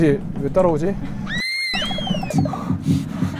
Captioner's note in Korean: 도망가는 효과음 꺄아악